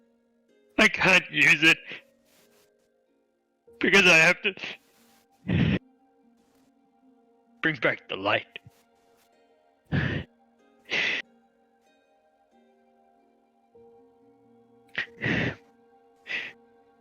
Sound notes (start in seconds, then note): 5.4 breath; 9.9 inhale; 10.9 exhale